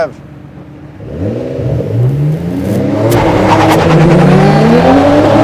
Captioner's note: car engines revving